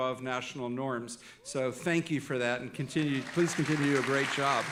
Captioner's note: audience applauding